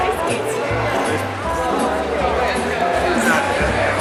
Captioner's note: chattering